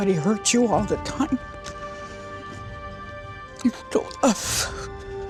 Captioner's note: voice breaking